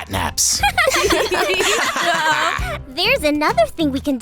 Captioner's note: laughter